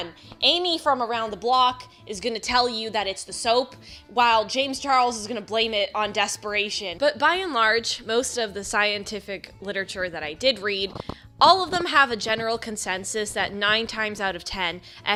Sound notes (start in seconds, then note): none